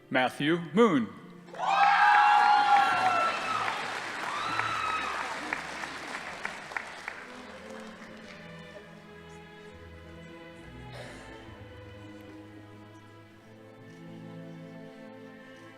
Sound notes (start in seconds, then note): 1.5 crowd cheering; 1.5 audience applauding